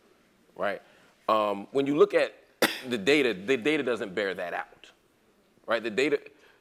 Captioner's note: cough